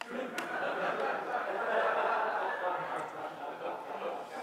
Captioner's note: audience laughs